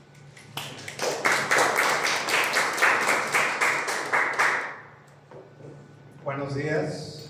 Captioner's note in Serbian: аплауз